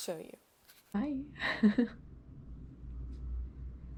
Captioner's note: giggles